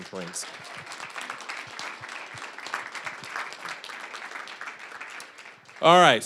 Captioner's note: applause